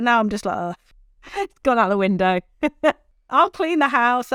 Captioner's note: laughs